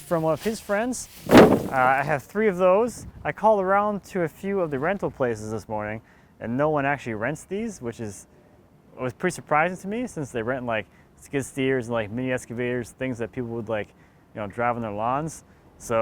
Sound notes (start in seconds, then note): 1.2 thudding